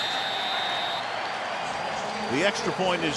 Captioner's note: whistle